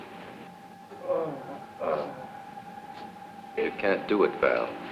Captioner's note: Paul groaning